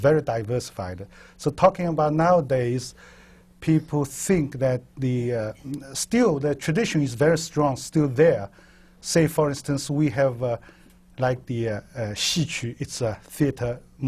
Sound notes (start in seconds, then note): 12.0 chinese